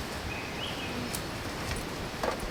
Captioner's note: bird singing